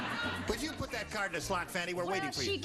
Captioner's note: laughing